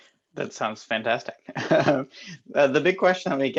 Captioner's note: laughing